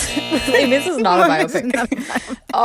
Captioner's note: soundbite of buzzer; laughter